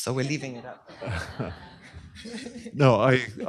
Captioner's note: laughter